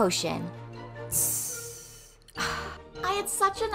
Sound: potion sizzling

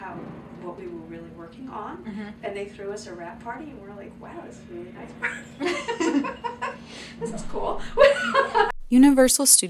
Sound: laughs

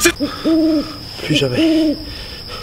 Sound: owl's sound

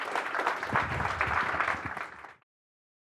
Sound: applause

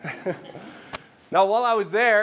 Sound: laughing

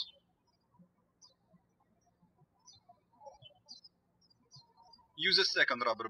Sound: birds chirping

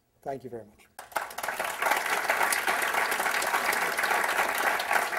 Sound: applause

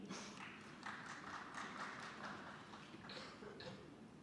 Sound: scattered applause

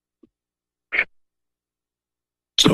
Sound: Static

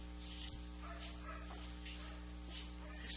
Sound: dog barking

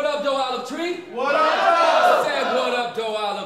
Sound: crowd

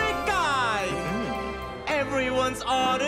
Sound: chuckles

